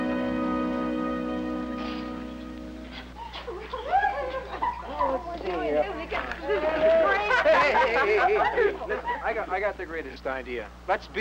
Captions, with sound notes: (kids chattering) - Hey, hey, hey, hey, hey. Listen, I got the greatest idea.